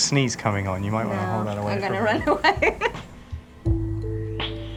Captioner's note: laughs